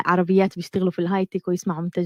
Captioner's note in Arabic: لغة أجنبية